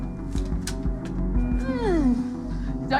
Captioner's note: groans